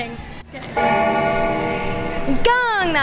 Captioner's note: bell gongs